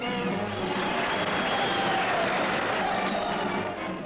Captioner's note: crowds Cheering